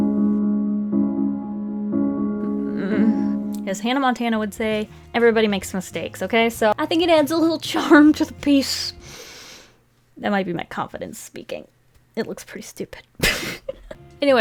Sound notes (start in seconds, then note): 0.1 sad music; 9.0 deep inhale; 13.2 laughs